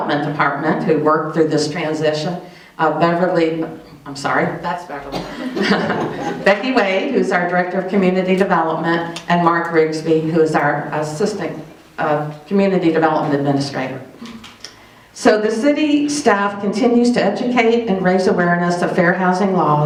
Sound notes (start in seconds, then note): 5.4 chuckles